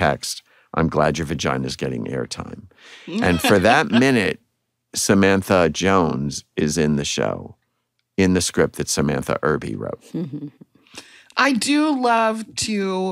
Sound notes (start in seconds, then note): 3.1 laughter